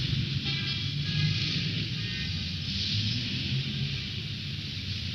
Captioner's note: car horns honking